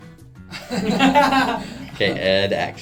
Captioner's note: spontaneous laughter